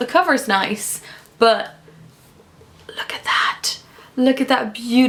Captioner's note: whispers